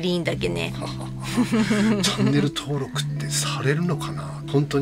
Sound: laughs

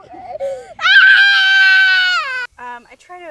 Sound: child screaming

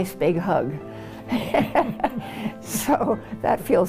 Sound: laughs

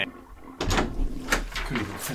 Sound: toilet flushing

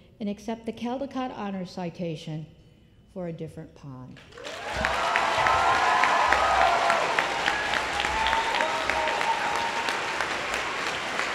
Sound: applause

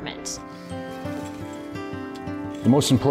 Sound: tools scraping

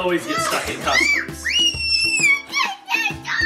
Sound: shrieks

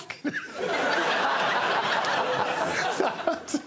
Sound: audience laughs

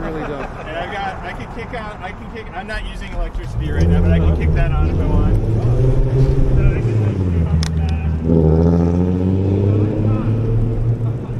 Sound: fartmobile passes

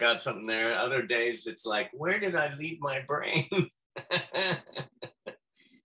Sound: laughs

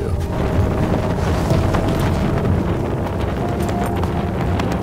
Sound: wind whirring

